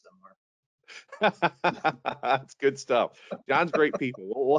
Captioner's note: laughing